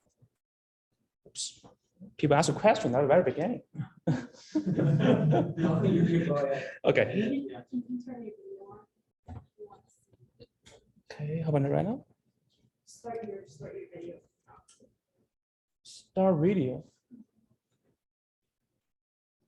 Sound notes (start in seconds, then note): 4.5 audience laughing